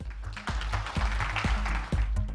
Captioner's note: applause